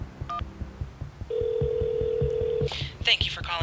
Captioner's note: line ringing